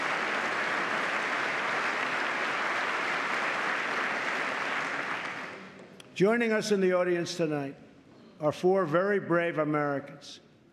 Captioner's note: applause